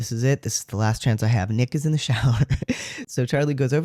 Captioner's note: laugh